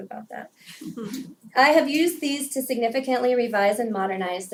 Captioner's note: laugh